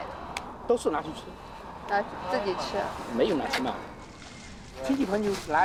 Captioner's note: speaking in foreign language